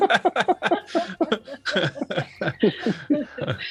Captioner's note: everyone laughs